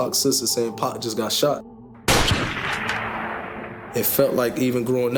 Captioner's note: gunshot firing